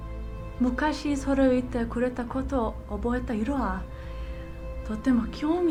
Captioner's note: Michiko speaking in foreign language